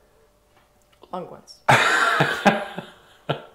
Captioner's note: laughing